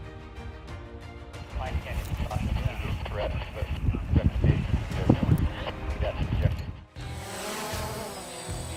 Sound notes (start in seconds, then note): 1.5 radio traffic; 6.8 sound of a drone